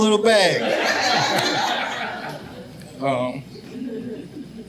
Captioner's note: audience laughing